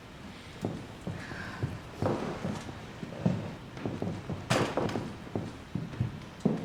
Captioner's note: rain pouring, furniture scrapes across floor